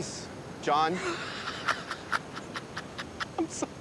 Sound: laughs

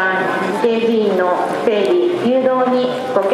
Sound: more loudspeaking voices

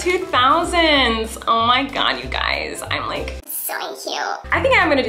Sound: cartoon voice

